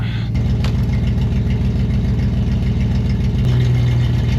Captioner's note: engine rumbling